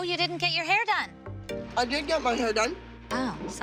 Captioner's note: mouth full